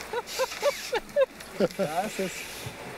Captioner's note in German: Sie lachen